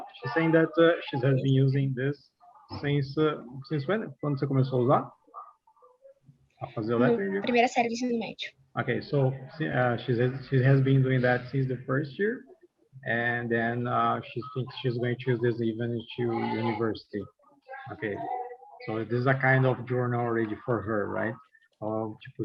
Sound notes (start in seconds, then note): 3.7 non-english; 8.0 non-english speech